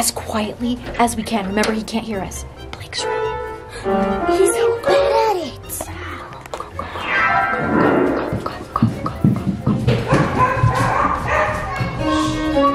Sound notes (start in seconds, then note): 2.8 whispering; 10.0 dog barking; 11.9 shouting